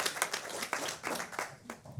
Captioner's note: applause